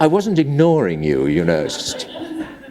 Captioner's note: laughter